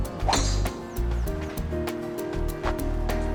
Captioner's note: clangs